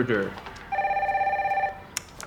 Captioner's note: phone ringing